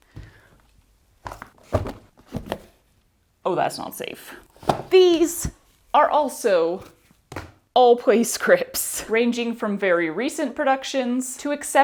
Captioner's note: thud, thud, clunk